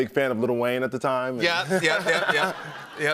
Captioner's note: laughter